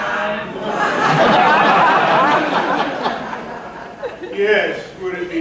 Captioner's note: laughter